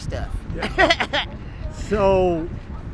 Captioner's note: laughs